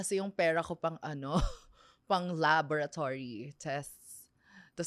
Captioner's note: laughs